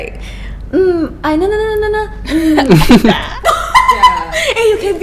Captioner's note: imitating the tone